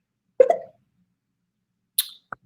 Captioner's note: computer notification sounds; clicks tongue